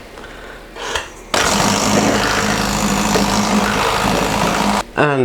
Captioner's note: whipping noises